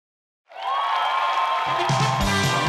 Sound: audience clapping and cheering; upbeat music

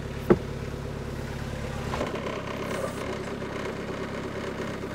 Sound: wood shifting

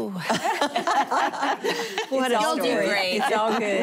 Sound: laughter

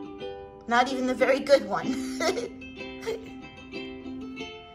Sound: light ukulele music; laughs; light ukulele music

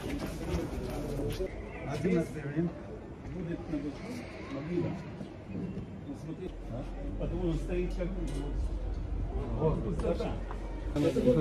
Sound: Hebrew Dialogue

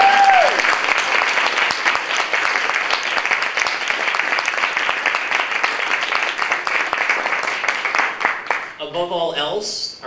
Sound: applause

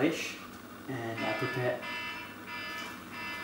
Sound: alarm blaring

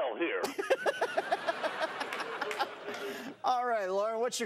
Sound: laughing

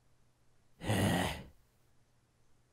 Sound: sigh

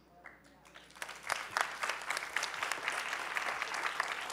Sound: applause

